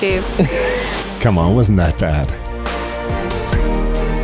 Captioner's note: laughs